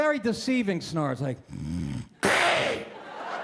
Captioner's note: loud snoring sound; snoring sound; laughter